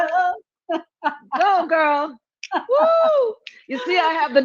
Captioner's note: cheering